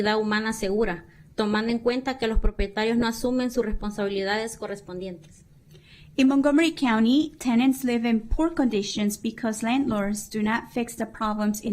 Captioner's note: speaking spanish